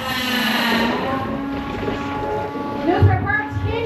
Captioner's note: robots whirring